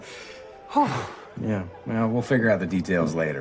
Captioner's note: sigh of relief